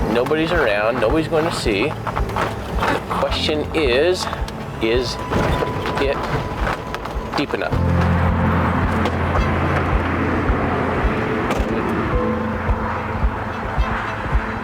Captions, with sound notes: nobody's around, nobody's going to see, the question is, is it deep enough? (gentle music continues) (traffic roaring)